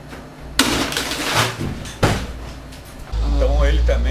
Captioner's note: strong beat on the table